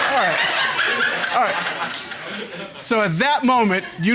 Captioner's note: audience laughing